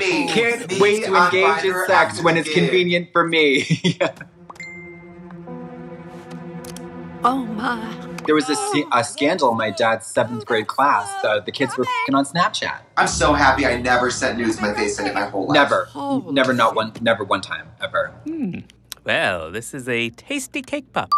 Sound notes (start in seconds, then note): 4.5 phone chimes